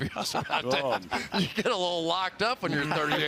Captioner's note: laughter